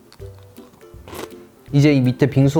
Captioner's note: Crunch